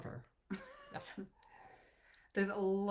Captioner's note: laughs